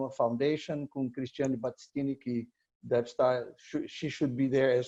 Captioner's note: foreign language